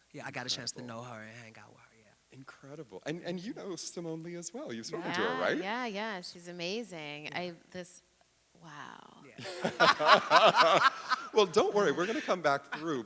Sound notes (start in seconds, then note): 9.4 laughing